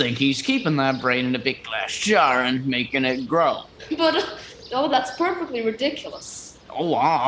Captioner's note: chuckles